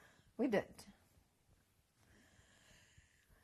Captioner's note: pauses for 3 seconds